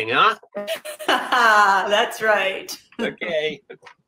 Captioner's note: chuckles